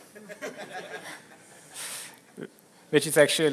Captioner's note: laughter